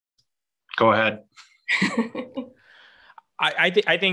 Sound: laughs

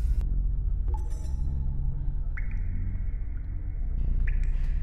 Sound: buzzing and crackling; water drips

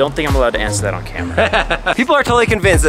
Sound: laughs

